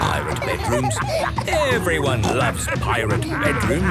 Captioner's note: laughter